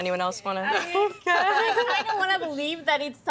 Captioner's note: laughing